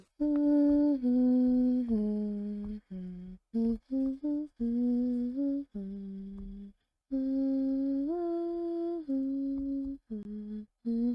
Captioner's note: humming